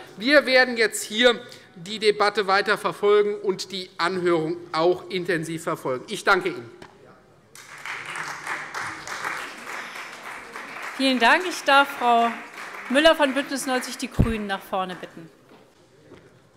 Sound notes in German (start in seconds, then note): 7.5 Beifall Freie Demokraten